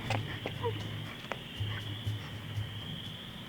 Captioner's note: girl sobbing